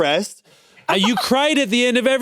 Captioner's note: chuckles